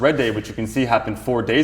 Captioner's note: air whooshing